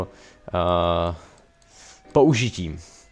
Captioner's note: silence